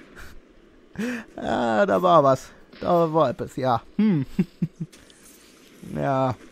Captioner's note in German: Lacht